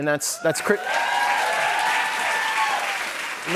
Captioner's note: cheers and applause